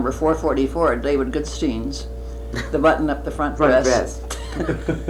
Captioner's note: laughter